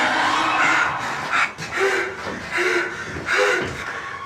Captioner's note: Billy panting